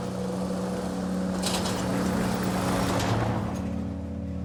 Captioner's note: truck rattles past